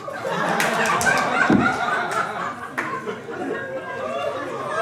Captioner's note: audience laughing